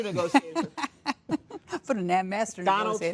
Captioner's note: laughing